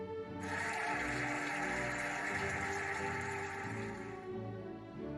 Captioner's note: cheering and applauding